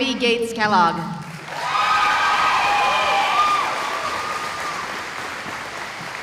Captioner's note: cheering